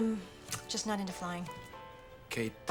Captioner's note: clicks tongue